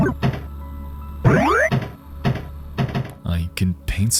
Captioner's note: pinball game beeping